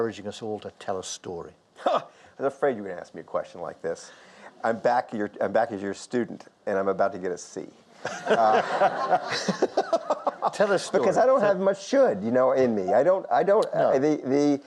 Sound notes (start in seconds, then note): 8.0 audience laughs; 8.0 Lord King laughs; 8.0 Michael Lewis laughs